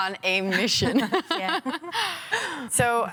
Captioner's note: laughing